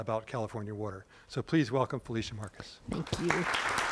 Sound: applause

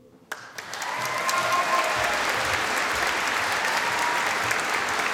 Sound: audience applauding

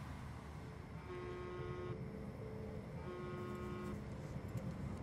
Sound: phone vibrates

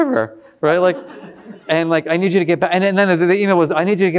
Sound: all laughing

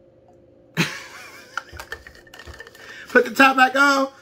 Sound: laughs

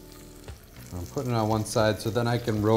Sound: atmospheric music; oil sizzles

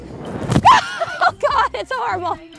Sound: screams

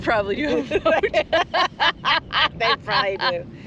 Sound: laughter

